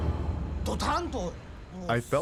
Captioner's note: speaking Japanese